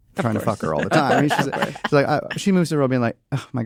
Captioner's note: laughter